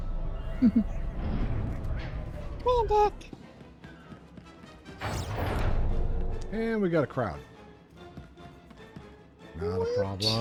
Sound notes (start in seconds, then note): 0.6 laughs